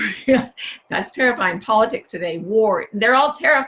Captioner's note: chuckles